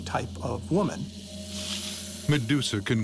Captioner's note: hisses